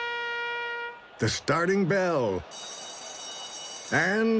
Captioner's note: bell rings